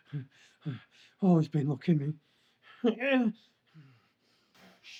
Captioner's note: Solent chuckles; groans